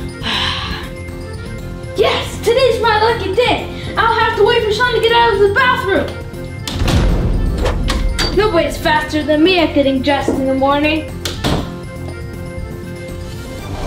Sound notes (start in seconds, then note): 0.1 sigh; 7.5 door shuts; 11.2 door shuts